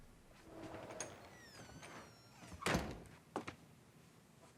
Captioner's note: door creaking